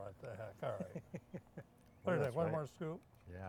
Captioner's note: laughing